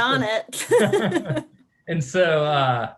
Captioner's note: both laughing